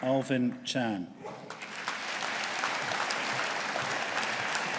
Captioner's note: audience applauding